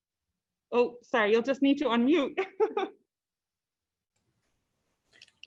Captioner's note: laughs